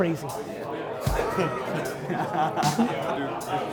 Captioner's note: laughs